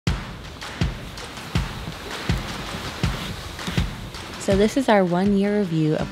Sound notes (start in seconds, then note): 0.0 upbeat music; 0.1 waves lapping